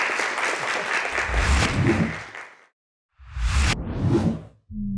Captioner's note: logo whooshing